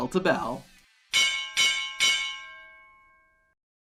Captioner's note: bell clanging